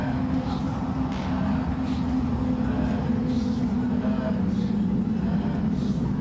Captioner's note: voices in fergus' head whispering